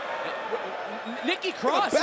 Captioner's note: crowd chatter